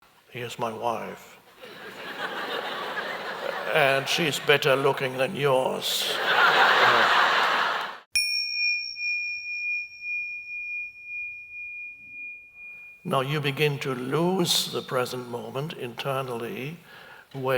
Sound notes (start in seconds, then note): 1.6 audience laughs; 6.3 bell dings